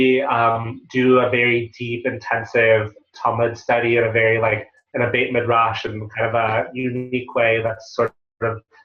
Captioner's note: Hebrew